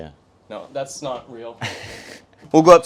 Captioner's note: laughs